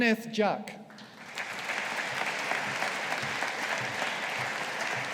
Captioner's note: audience applauding